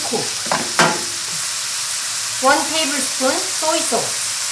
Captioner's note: pan sizzling